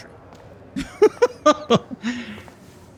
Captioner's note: laughs